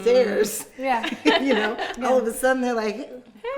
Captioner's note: laughing